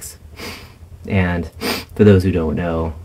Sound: sniff

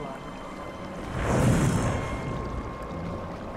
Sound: metallic wooshing

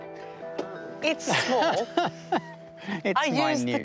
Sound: laughs

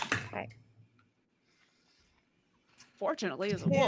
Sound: dice clacking

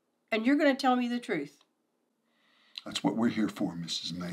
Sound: none

